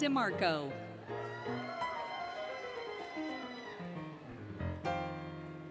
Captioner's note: applause, Cheering, Music